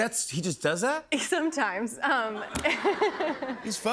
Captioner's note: laughter